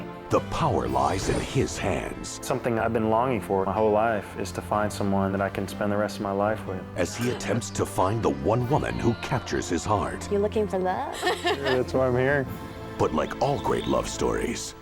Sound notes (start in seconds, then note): 11.1 laughing